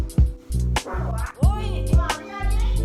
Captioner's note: someone farted